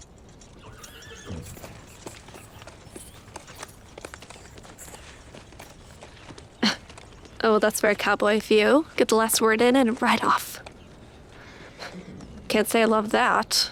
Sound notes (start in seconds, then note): 0.5 horse neighing; 6.4 scoffs